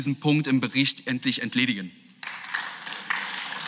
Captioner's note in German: Beifall